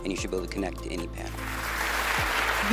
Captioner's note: crowd applauding